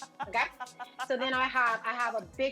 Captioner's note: laughs